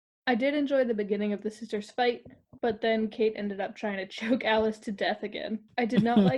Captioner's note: laugh